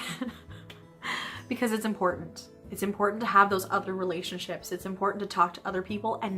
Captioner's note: laughter